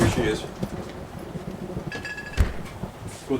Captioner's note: cupboard clunking; footfalls scuffing; bottles clanking